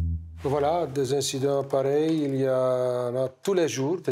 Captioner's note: French spoken audio